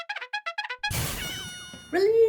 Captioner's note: battle horn signal